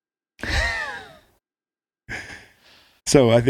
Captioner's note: laughing